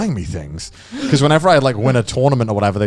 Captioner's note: chuckling